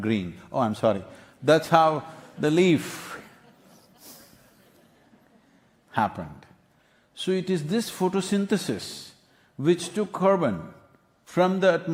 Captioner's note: few laugh